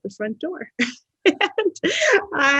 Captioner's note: laughs